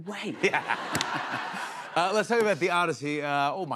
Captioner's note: laughter